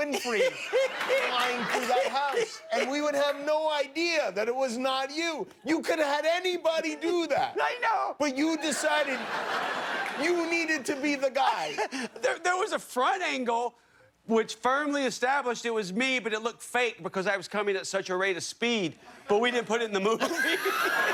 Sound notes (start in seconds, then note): 11.6 laughter